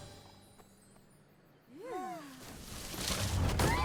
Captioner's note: all sigh; all scream